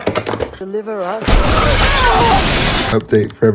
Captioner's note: screams